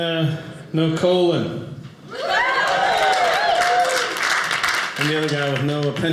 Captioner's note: audience laughing